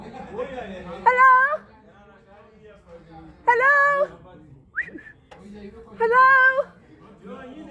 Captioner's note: whistle